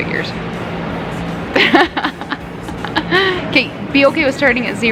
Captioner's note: laughing